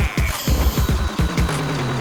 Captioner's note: BB-9E sounds